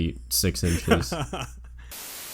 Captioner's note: static